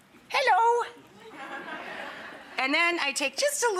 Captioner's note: audience laughs